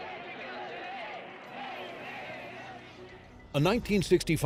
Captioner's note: people chanting